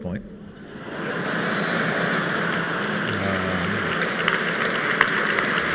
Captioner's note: laughter